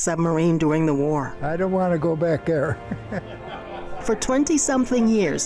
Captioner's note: laughs